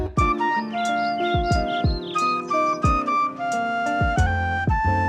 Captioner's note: birds chirping; soft flute music